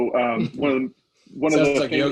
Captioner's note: laughing